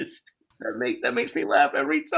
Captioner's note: laughs